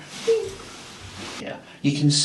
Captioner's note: person hums